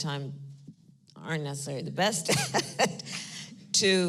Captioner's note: laughs